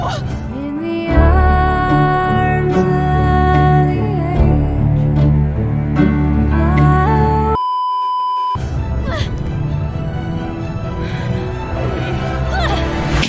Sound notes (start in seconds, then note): 7.5 beeeeeeeeeeeep